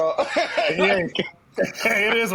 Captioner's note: laughing